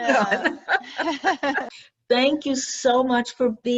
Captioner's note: laughing